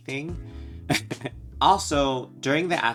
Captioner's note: chuckles